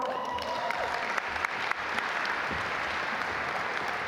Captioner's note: audience applaud